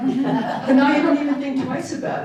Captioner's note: audience laughing